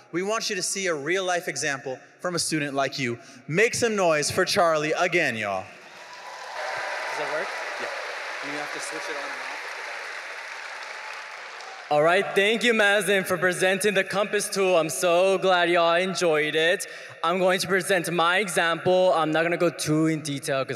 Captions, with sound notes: we want you to see a real life example from a student like you. Make some noise for Charlie again, y'all. (audience cheering) - Does that work? - Yeah, you have to switch it on and off. - Alright, thank you Mazin for presenting the compass tool. I'm so glad y'all enjoyed it. I'm going to present my example. I'm not gonna go too in detail